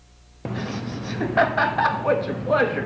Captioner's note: laughing